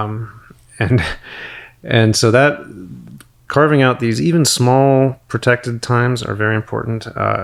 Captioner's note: chuckles